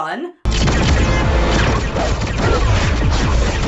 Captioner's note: lasers blasting